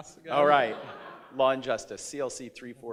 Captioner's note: audience laughs